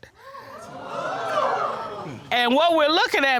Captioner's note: audience exclaiming